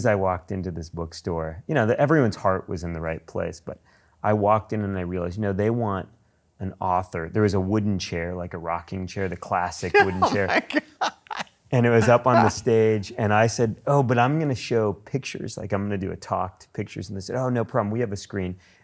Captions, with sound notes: as I walked into this bookstore, you know everyone's heart was in the right place but I walked in and I realized they want an author. There was a wooden chair like a rocking chair, the classic wooden chair. - (laughs) Oh my God! - And it was up on the stage. And I said, "Oh, but I'm gonna show pictures, like I'm gonna to talk to pictures." And they said, "Oh no problem, we have a screen."